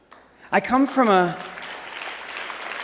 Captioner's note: applause